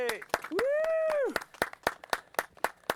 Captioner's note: applause; man whoops